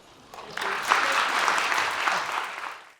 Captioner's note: audience applauds